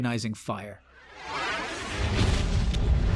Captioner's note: whoosh; kaboom